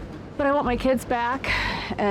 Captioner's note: sighs